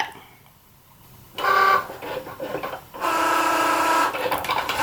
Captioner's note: machine buzzing